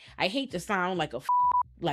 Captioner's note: beep